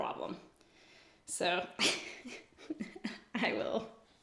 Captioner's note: laughs